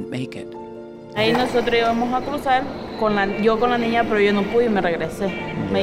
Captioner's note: lady speaking Spanish